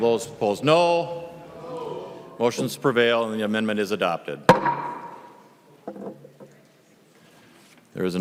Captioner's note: cHORUS OF AYES